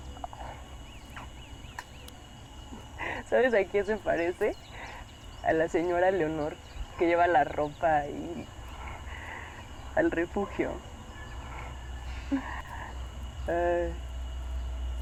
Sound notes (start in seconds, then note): 1.2 birds chirping